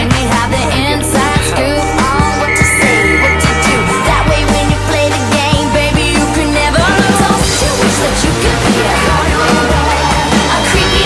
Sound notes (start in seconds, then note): 2.2 Bric blows whistle for help